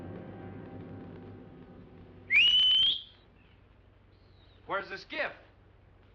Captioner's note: whistles